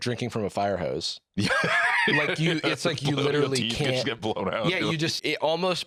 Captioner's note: laughing